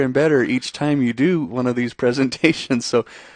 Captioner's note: chuckles